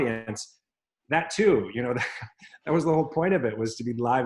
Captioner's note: laughs